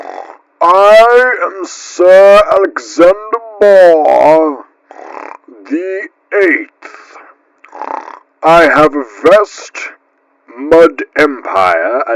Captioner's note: pig Snort; pig Snort